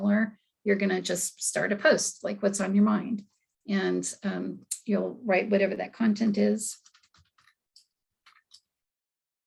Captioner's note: typing